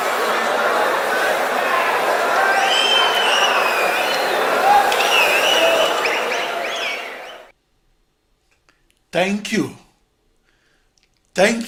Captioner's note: wild applause and cheering for 22 seconds